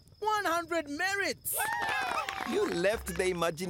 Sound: cheering

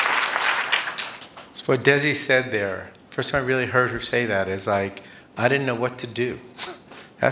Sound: applause

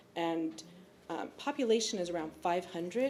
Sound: none

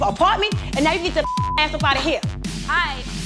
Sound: beep

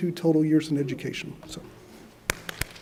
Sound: applause

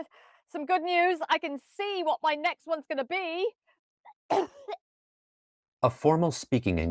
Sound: coughs

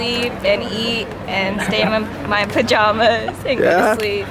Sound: laughs

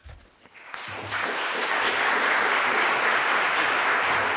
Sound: applause

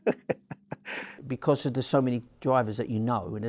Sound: laughs

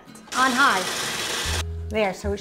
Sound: machine whirs

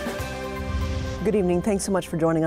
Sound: air rumbles

